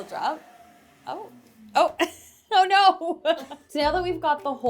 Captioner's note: laughs